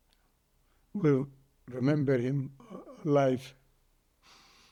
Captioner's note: crying